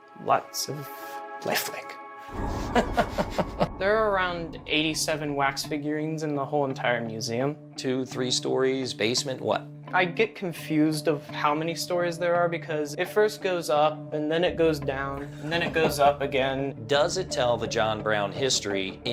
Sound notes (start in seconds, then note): 2.2 eerie sound plays; 2.6 laughs